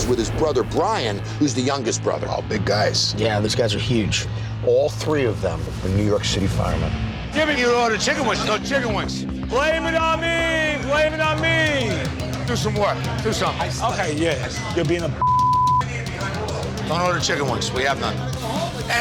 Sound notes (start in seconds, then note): 15.2 beep